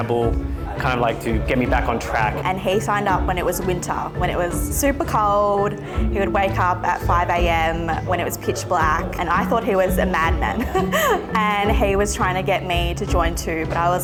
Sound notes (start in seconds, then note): 10.4 chuckling